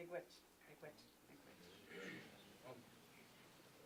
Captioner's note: voice is muffled